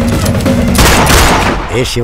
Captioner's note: gunshot